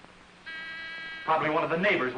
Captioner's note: door bell rings